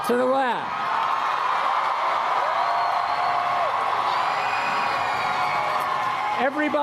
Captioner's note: cheering